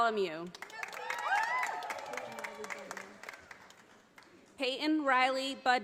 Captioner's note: audience applauding